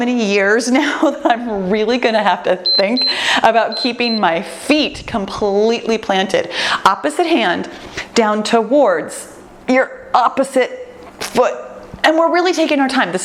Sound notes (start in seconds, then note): 2.6 timer beeps